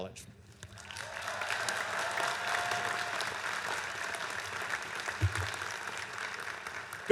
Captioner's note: applause